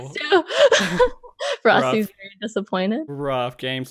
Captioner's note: laughs